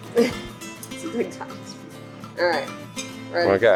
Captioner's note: laughs